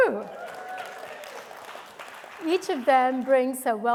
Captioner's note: audience cheering and clapping